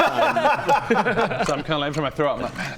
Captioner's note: taunting laugh